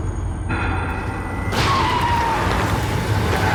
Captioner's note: tyres screeching